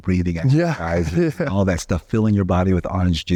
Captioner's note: chuckling